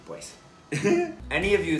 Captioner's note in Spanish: risa pendeja